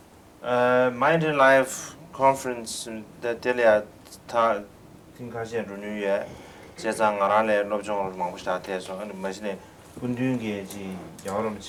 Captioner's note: non-english speech